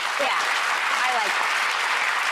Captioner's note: audience clapping